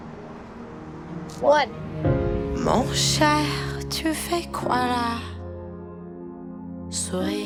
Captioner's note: French